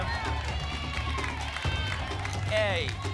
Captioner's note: audience shouting letters